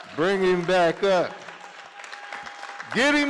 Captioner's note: cheering